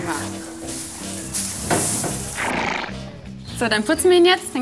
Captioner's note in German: Schnauben